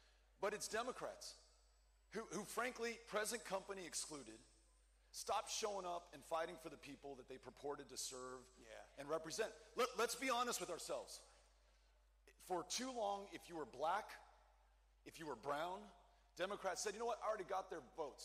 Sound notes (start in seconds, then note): none